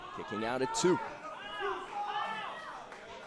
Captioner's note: crowd cheering